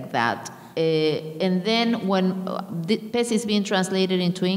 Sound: speaking in a foreign language

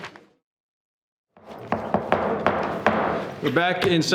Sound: gavel banging

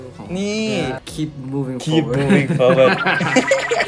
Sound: laugh

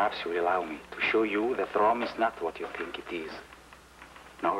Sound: none

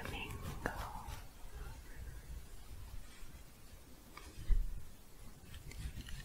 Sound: quiet shuffling

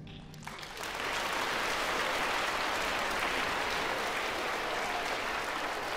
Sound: applause

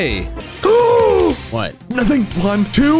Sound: exclaims

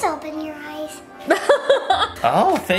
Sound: laughing

